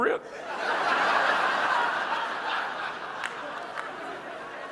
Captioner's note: audience laughing